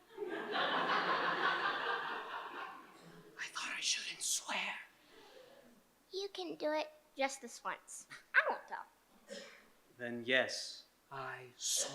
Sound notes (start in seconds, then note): 0.0 whispering; 0.1 audience laughing; 3.7 whispering